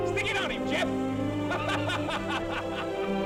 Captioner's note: laughs